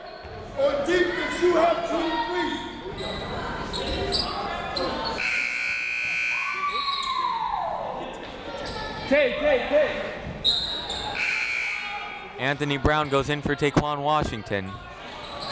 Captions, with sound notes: (buzzer) (whistle) (buzzer) Anthony Brown goes in for Taequann Washington.